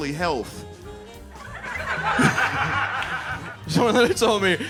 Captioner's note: audience laughing